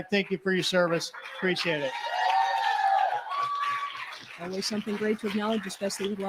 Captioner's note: cheering